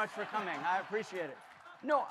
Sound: audience laughing

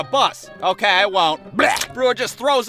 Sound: throws up

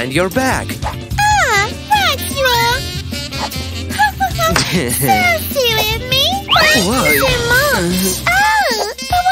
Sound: polite laughter

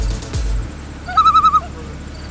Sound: loon call

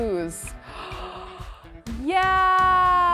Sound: gasps

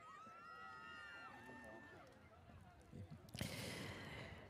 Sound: audience cheers

